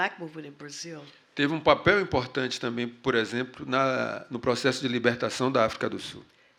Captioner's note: speaking portuguese